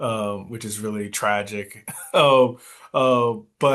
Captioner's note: coughs